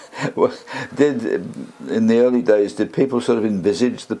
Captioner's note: laugh